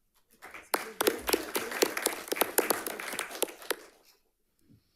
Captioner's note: audience applauding